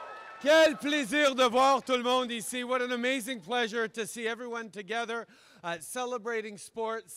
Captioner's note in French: Acclamations